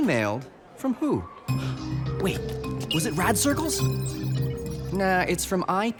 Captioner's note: gasps